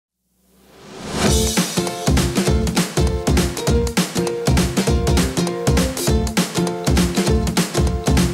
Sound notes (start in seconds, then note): 0.4 logo whooshing; 1.2 light-hearted music